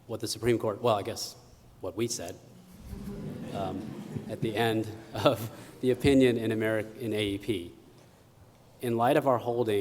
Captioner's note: laughter